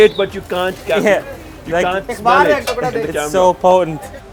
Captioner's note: man speaks foreign language